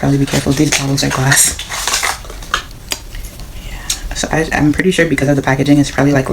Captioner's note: opening the Package sounds